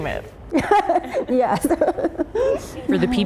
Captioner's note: laughter